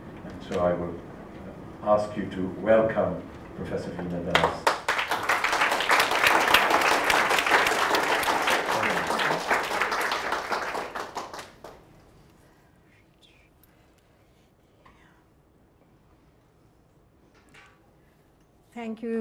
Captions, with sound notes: So I will ask you to welcome Professor Veena Das. (audience applauds)